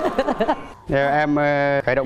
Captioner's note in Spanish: risas